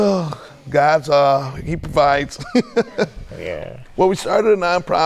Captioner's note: laughing